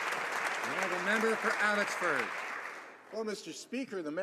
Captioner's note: some Applause